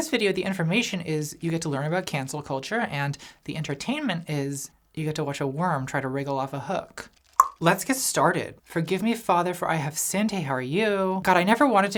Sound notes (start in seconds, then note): 7.3 tongue pops